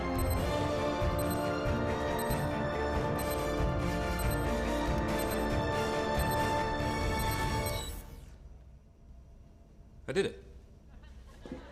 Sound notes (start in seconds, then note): 0.0 dramatic music plays; 7.9 beeping stops